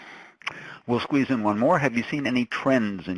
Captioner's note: voiceover